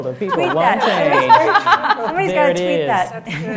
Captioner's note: laughing